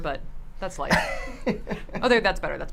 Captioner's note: laughs